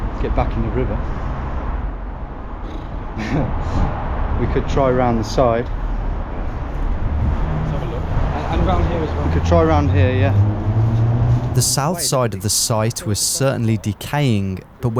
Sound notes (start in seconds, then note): 2.6 lips trilling